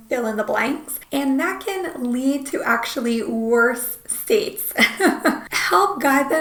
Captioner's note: laughs